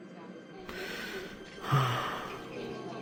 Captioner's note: breathing